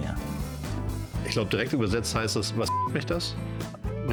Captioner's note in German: Piep